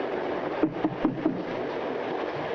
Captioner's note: knocks